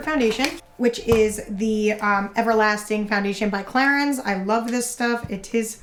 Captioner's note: none